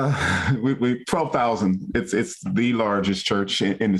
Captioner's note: chuckles